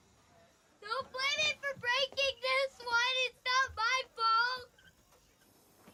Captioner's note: wails